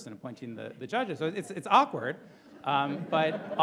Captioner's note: audience laughing